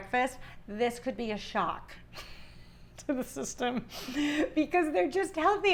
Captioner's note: giggling